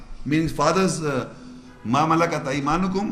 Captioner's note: Arabic